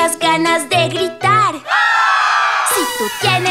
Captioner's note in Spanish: Grito